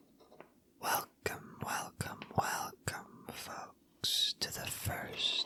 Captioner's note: whispered